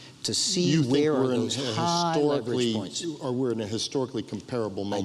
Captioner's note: overlapping chatter